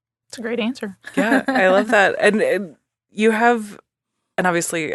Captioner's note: laughing